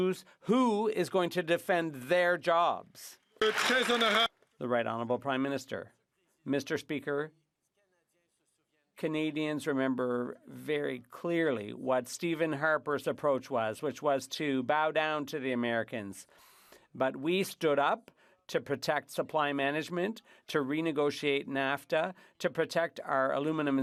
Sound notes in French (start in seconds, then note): 5.3 applaudissements; 10.8 voix de l'interprète